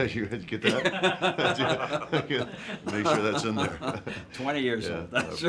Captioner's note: laugh